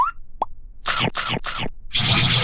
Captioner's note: munching